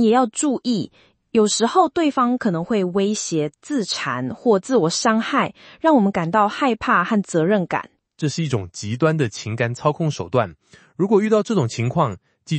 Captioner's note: speaks Mandarin